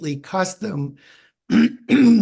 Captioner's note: clears troat